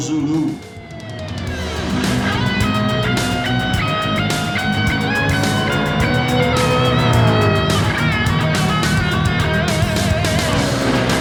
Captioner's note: music, engines revving, cars noises